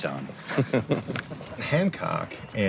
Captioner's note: both chuckle